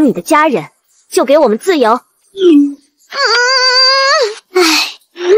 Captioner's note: sigh